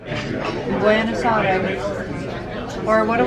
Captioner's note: speaking in foreign language